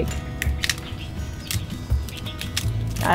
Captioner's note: cracking sounds